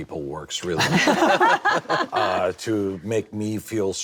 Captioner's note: laughter